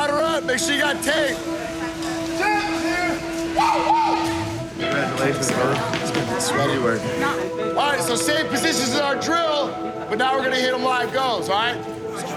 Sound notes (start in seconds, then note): 3.5 whooping